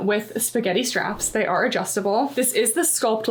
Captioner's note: text whooshing